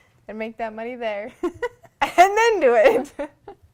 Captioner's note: laughter